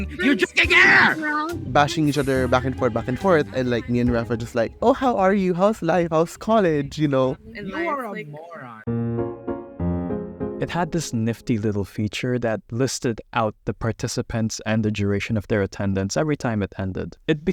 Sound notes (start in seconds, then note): 1.6 continued Arguing